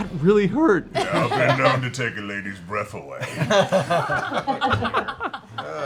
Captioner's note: laughs